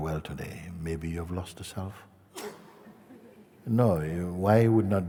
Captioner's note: laughter